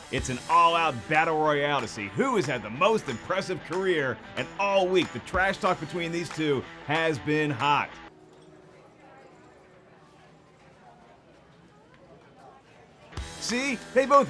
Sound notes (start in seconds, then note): none